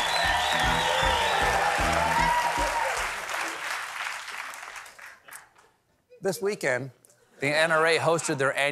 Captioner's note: cheers and applause